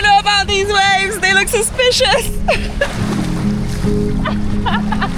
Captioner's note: laughs